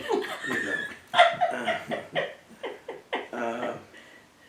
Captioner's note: laugh